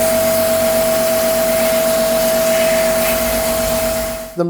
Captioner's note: loud whirring & clattering of the sand hitting the surface